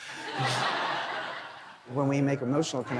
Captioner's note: laughter